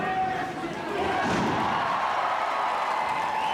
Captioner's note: bodies thud; audience cheering and clapping